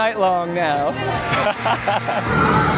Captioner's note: laughter